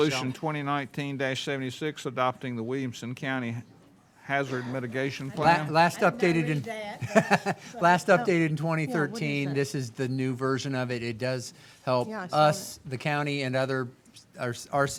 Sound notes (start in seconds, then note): 5.3 chuckles